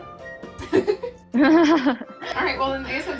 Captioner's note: both laugh